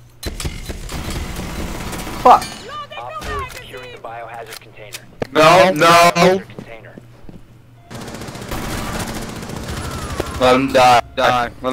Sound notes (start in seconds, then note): 3.6 Hears a Frost trap go off